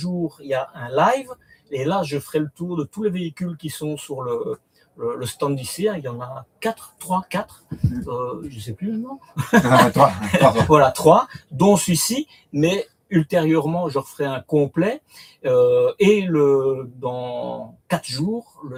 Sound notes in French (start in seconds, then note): 9.4 rires